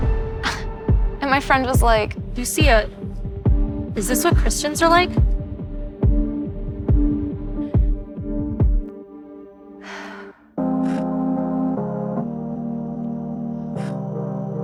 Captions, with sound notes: (scoffs) And my friend was like- Lucia, is this what Christians are like? (sighs) (emotional music)